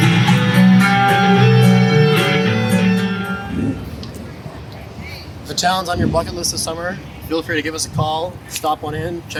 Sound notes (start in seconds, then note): 0.0 guitar playing; 3.5 engine revving